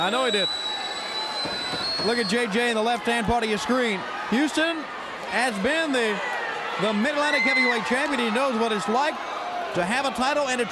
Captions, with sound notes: CAKEWALK. >> I KNOW HE DID. >> [CROWD CHEERING] >> LOOK AT J.J. IN THE LEFT-HAND PART OF YOUR SCREEN. HOUSTON HAS BEEN THE MID-ATLANTIC HEAVYWEIGHT CHAMPION, HE KNOWS WHAT IT'S